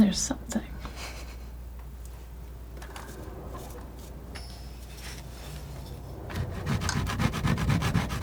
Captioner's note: scratching